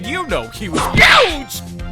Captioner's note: whip crack!